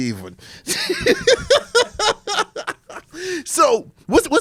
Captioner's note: laughs